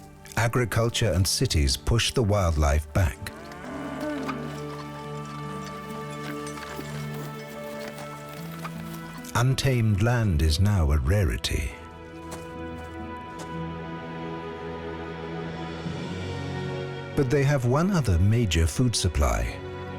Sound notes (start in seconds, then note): 3.2 cattle mooing